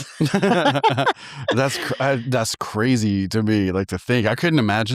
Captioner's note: both laughing